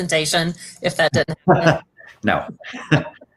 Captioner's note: laughter